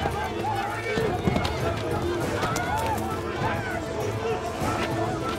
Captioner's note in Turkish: Yuhalama sesleri